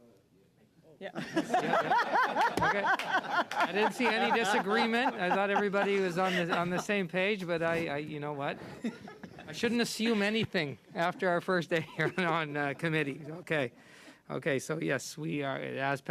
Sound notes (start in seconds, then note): 8.6 laughter